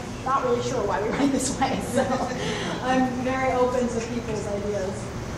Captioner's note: laughs